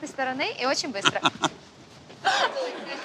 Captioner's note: both laugh